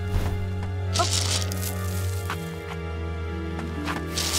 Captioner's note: mysterious music continues; rocks clacking